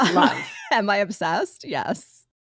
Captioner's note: laughing